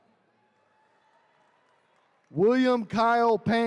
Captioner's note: attendees cheering